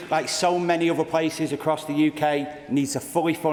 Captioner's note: applause